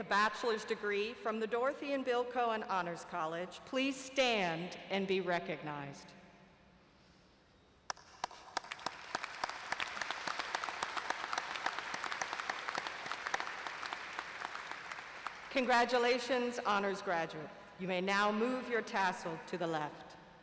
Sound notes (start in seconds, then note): 16.3 applause